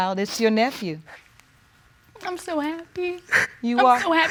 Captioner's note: crying